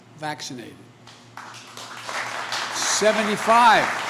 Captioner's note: applause